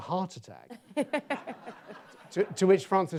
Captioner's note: audience laughs